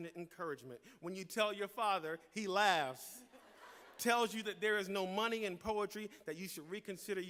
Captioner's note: laughter